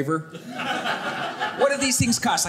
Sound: audience laughing

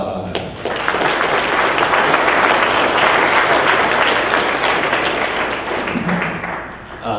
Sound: clapping

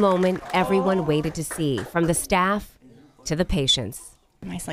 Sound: applause

